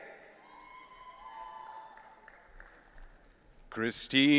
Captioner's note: audience cheering